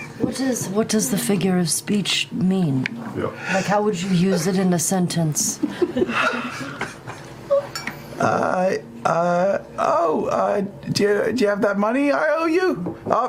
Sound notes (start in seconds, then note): 6.7 sighs